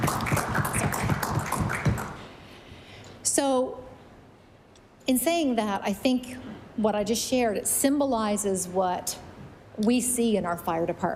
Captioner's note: applause